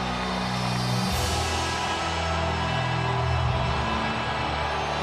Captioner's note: audience cheers